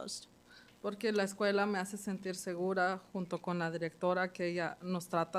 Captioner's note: speaking Spanish